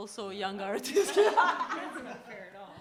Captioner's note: laughter